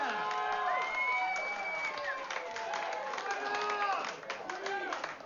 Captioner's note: vítores y aplausos